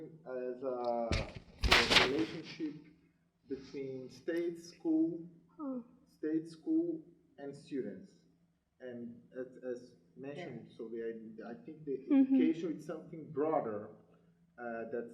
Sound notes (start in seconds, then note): 10.2 murmurs